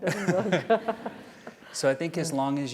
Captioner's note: laugh